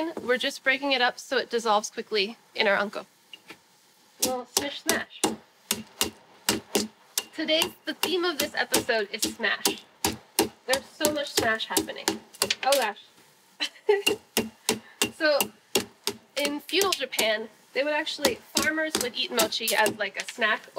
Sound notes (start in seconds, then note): 6.4 pounding; 13.6 laughing